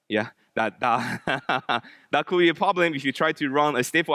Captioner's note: laughs